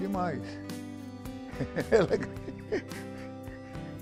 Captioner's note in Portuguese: risos